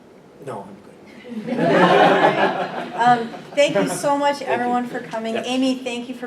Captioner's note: laughter